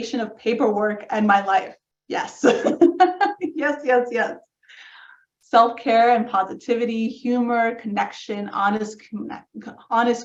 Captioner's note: laughs